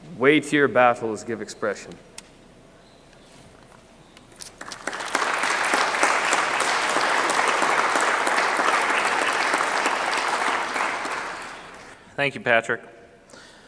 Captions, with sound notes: weightier battles give expression. [clapping] Thank You Patrick.